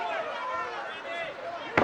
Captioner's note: crowd yelling